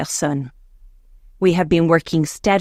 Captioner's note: speaking in French